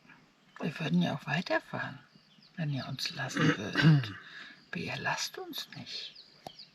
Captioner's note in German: räuspern